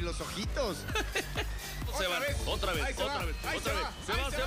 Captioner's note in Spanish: ríe